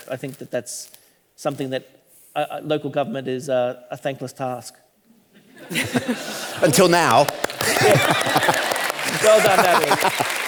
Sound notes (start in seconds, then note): 5.4 all laughing